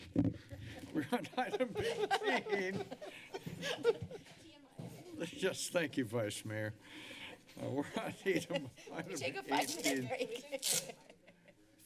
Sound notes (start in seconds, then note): 0.0 background conversations; 0.4 laughter; 8.5 laughs